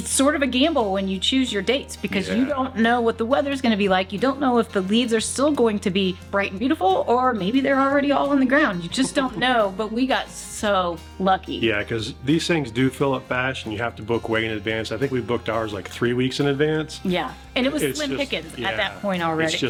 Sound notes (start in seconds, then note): 8.7 chuckles